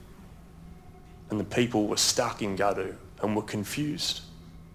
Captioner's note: speaks in foreign language